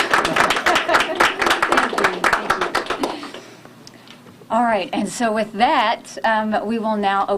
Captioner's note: applause